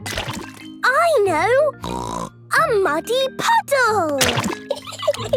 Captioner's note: laughing